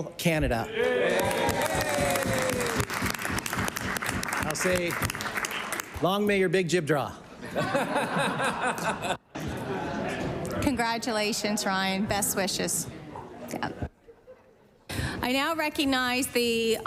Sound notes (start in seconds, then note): 6.5 cheering and Applause; 14.0 laughter